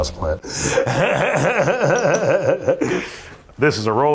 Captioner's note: laughs